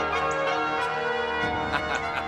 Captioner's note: laughing